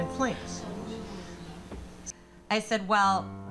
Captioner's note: audience gasping